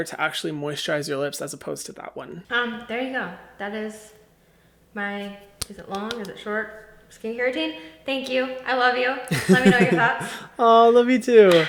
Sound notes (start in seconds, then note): 5.3 claps; 9.3 laughs